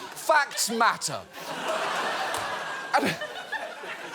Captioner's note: audience laughs